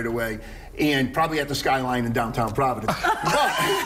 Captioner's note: laughter